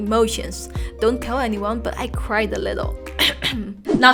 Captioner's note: cough